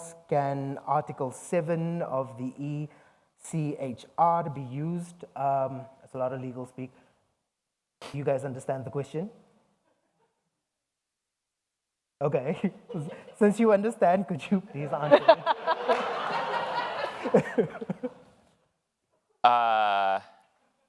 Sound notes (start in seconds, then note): 15.0 all laughs